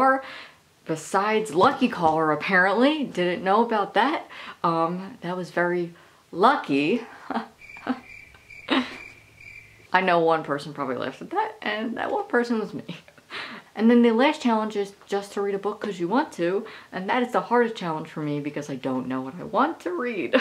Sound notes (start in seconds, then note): 7.5 crickets chirping; 8.6 laughing